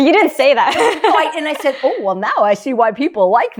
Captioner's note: laughs